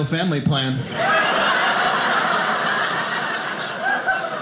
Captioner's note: audience laughing